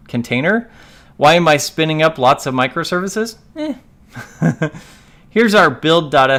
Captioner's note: laughs